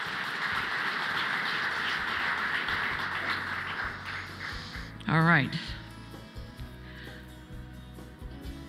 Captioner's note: applause